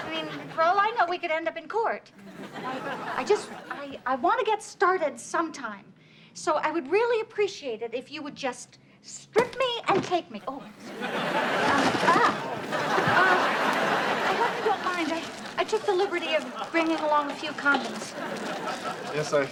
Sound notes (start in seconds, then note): 0.0 audience laughs; 9.9 thuds; 11.0 audience laughs